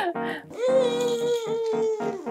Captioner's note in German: Babylaute